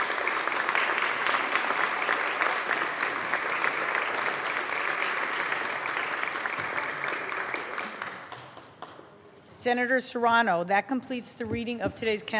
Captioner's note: applause